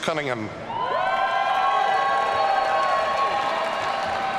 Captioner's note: audience cheering